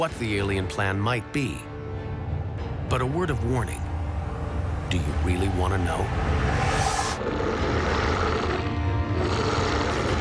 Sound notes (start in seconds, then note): 6.0 roaring